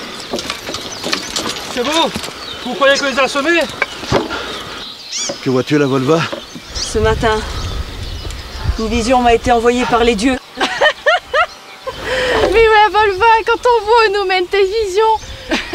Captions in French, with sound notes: c'est bon, vous croyez qu'on les a semés ? Que vois tu, la Volva ? Ce matin, une vision m'a été envoyée par les Dieux [éclat de rires] mais la Volva, quand on voit où nous ont mené tes visions